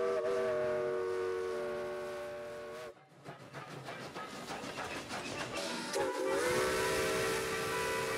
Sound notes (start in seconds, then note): 3.3 train chugging